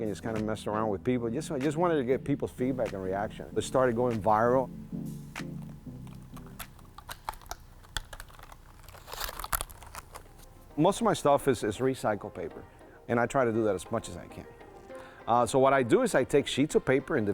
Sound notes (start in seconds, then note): 5.6 paper crinkling